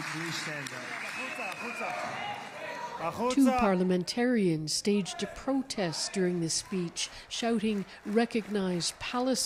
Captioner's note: applause